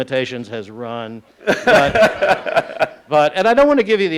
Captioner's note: laughing